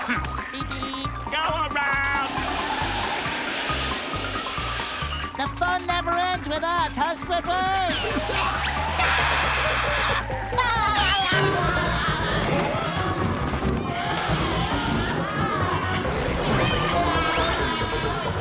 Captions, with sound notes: Beep beep. Go around! The fun never ends with us, huh Squidward? [screaming] [laughing]